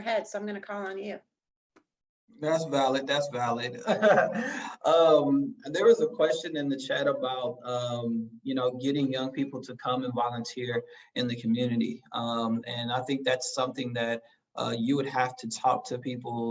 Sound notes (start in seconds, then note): 2.4 laugh